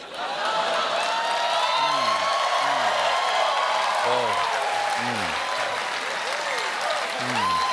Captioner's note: cheers and applause